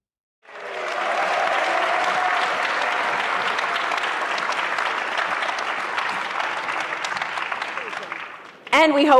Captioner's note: applause